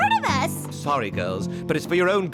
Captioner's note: gasps